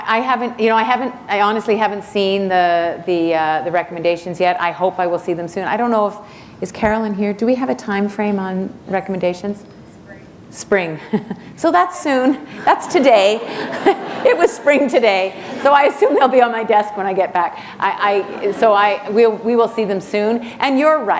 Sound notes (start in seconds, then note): 11.0 chuckle; 13.2 laughter